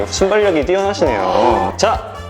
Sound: hehe

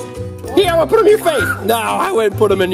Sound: scream

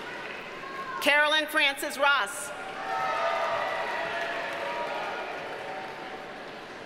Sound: audience cheers and applauds

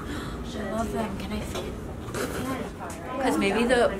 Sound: laughing

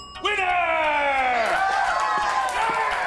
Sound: cheering

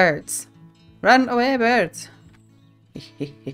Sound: laughs

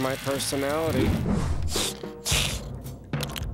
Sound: sniffing

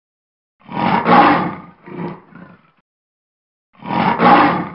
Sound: lion roaring

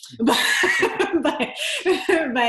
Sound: both laughing

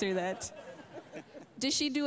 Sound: laughter

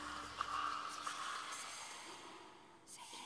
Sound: creepy whispering

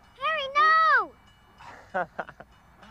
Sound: Harry laughs

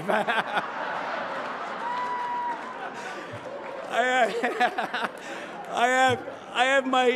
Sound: laughter

